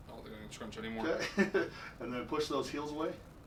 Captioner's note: laughs